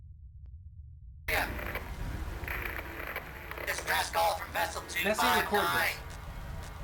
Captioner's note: radio voice